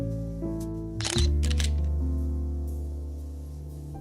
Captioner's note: camera shutter; melancholy music